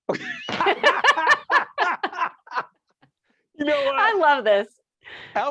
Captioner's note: all laughing